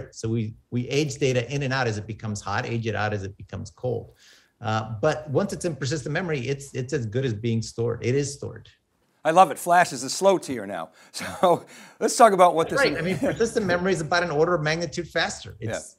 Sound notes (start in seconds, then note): 12.6 laughs